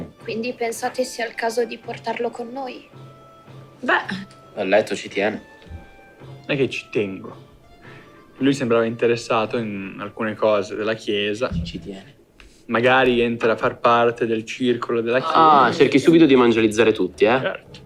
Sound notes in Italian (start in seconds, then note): 11.9 sottovoce